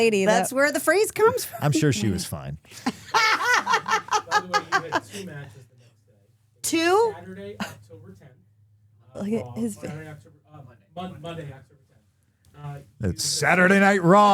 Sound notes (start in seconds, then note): 2.8 Stephanie laughing